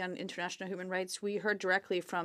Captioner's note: speaking French